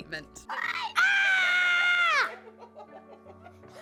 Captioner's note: screams; laughter